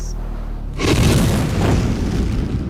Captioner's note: roars